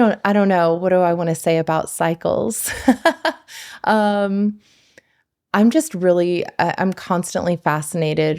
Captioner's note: laughs